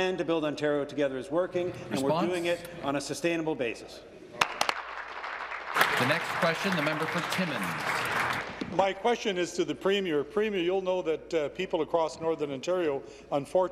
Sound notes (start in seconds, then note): 8.4 applause